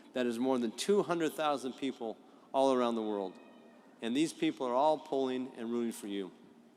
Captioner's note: none